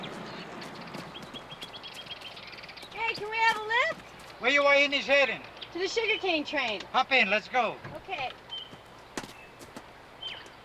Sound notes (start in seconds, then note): 4.6 speaking in a foreign language